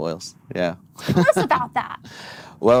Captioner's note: laughs